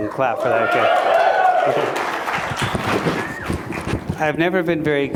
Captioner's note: applause